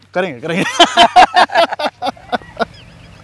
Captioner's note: Laughing